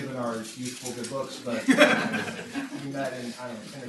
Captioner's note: laughter